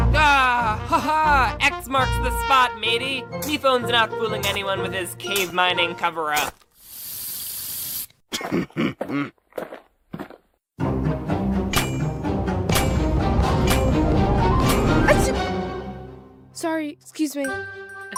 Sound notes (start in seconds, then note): 8.0 knife chuckling; 10.8 rising suspense